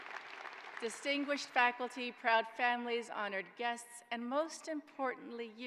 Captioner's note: applause